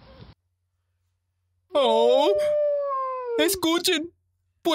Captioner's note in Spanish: Aullido